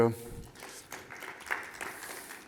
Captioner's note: applause